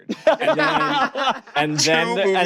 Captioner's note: hosts laughing